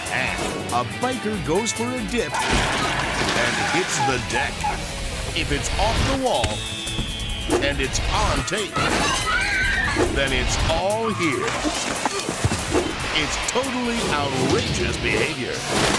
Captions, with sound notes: And a biker goes for a dip (table cracks) (water splashes) and hits the deck. If it's off the wall and it's on tape, then it's all here. It's "Totally Outrageous Behavior."